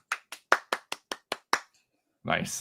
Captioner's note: clapping